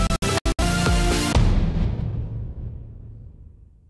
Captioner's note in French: Boum